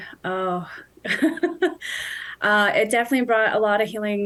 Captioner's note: chuckling